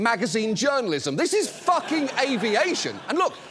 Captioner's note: studio audience laughs